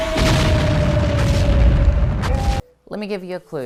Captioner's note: explosion